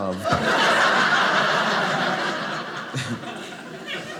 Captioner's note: audience laughing